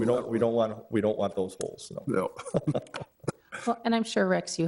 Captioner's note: laughs